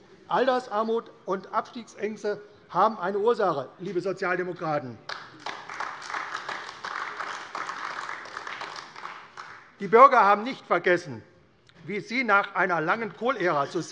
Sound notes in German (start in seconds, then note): 5.0 Beifall AfD